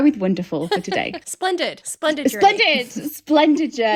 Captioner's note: laughing